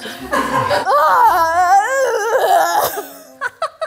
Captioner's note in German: Unsichere Laute